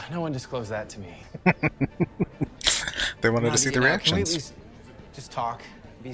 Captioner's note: chuckling